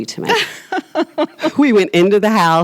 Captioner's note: both laughs